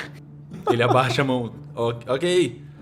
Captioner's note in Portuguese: risos